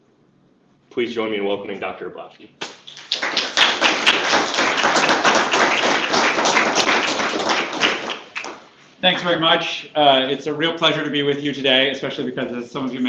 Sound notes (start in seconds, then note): 2.6 applause